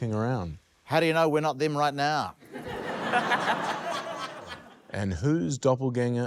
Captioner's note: laughter